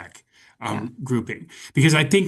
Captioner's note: chuckling